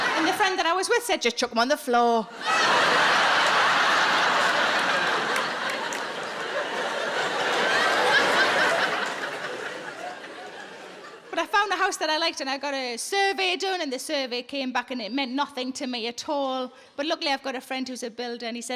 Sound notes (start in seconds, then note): 2.7 audience laughing